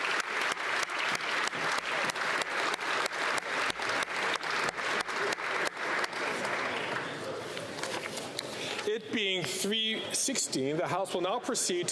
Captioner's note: applause